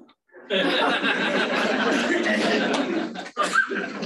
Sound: laughter

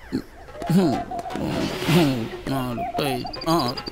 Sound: counting

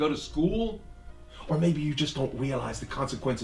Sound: faint water running

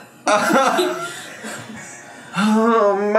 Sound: laughs

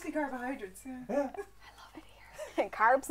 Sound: whispering

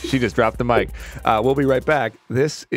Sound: laughs

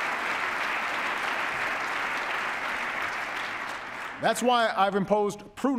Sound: applause

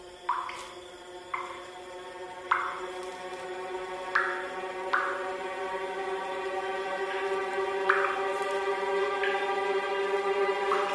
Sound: water dripping

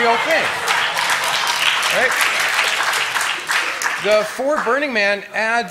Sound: applause

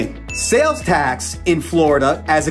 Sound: graphics ding

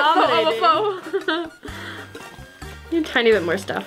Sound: laughing

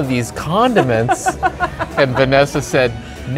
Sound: laughing

